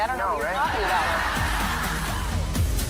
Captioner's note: audience laughter